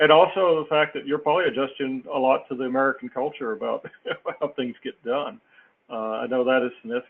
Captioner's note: laugh